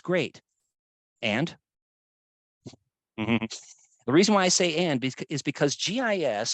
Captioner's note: chuckles